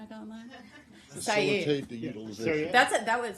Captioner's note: laughter